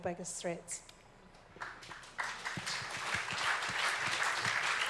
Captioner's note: audience applauds